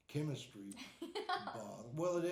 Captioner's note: laughing